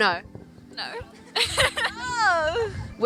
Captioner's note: laughs